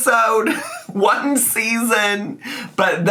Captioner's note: laughs